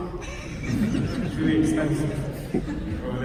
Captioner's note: audience chuckling